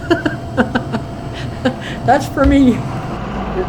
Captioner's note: laughing